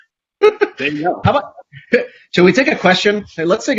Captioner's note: both laugh